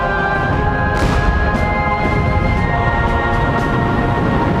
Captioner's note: guns firing